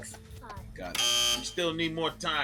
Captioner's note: buzzer